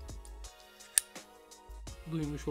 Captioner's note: click!